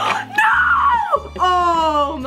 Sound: gasps

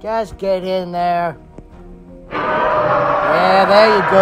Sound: postosuchus Sounds

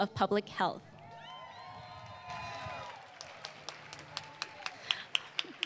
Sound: applause

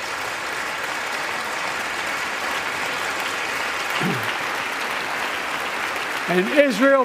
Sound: applause

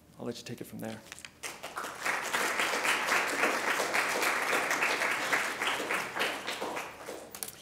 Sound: applause

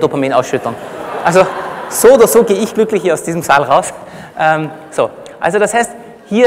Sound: laughter

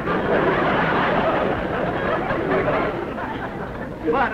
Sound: laughter

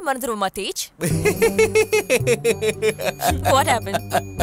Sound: laughs

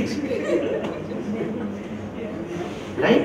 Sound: laugher

